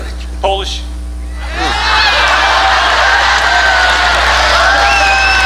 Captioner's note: audience cheering